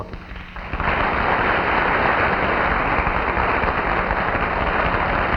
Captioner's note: audience clapping